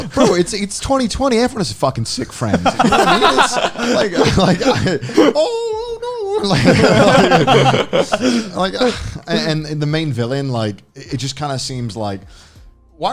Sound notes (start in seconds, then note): 2.0 laughing